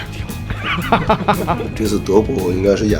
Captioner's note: laughs